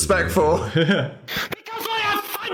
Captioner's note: Phil laughs